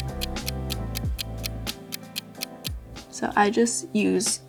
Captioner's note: clock ticks